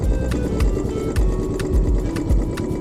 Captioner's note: bike engine